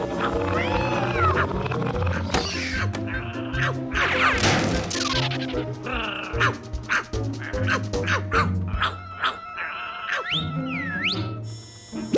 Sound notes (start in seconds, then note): 8.7 barking; 10.2 whistles